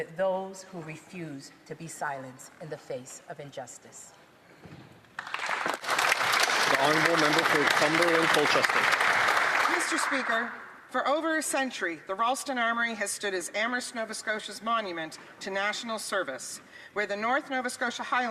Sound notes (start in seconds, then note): 11.0 some Applause